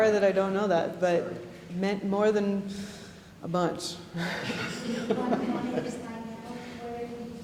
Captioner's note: laughing